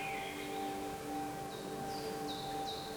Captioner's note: birdsong